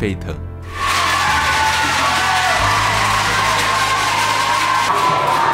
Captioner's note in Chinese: 歡呼